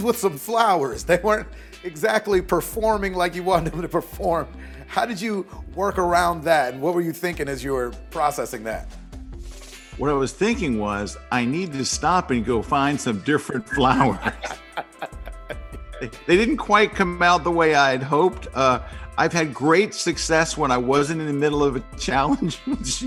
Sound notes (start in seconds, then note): 13.7 laughs; 22.3 laughs